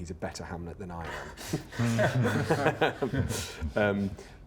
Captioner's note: all laugh